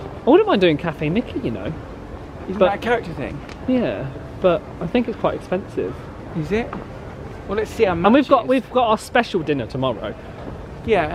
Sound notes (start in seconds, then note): none